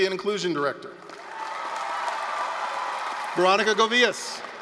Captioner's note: applause, cheering